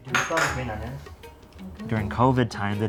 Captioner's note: clattering